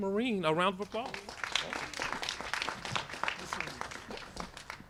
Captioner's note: applause